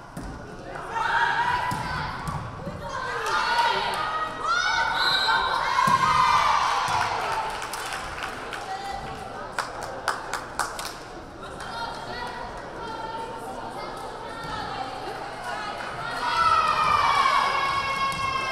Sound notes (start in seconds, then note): 3.3 crowd calling out; 3.4 whistle blaring; 5.8 crowd cheering; 6.9 crowd applauding